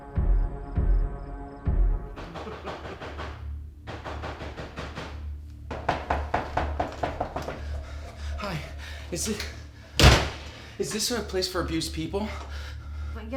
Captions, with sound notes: (door knocking) (foreboding music) - Hi, is this a place for abused people?